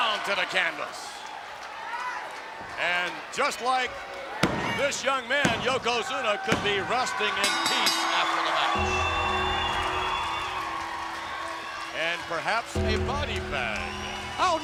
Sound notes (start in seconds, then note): 7.6 bell rings; 9.1 crowd cheers; 9.1 gong rings